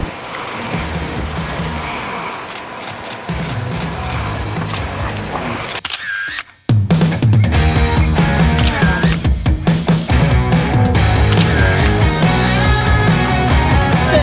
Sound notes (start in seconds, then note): 3.1 camera shutter clicking; 3.1 upbeat rock music